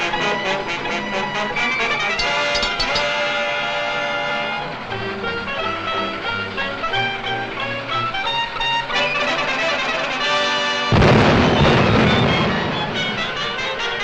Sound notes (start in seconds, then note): 2.3 metal clinks; 9.0 triumphant music; 10.9 explosion booms